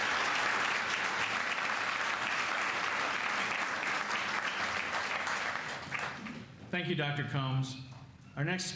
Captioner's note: cheers and applause